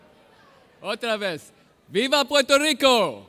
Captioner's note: speaking in Spanish language